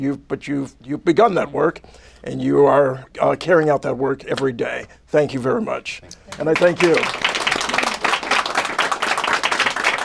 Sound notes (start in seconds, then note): 6.3 applause